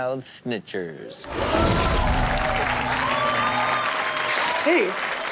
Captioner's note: audience cheers